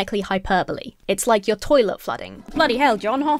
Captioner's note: toilet flushes